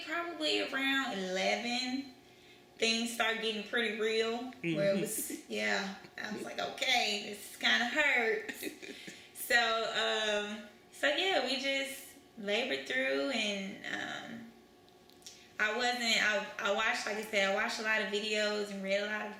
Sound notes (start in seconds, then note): 8.4 laughter